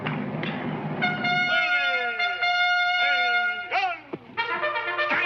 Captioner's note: trumpet blares; soldier yelling; trumpet blares